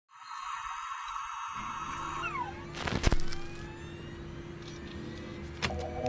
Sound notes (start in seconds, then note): 0.1 high-pitched noise; 2.3 static